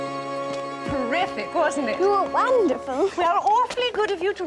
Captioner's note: none